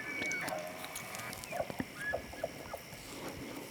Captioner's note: elk bugles